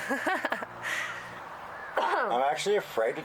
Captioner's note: laughter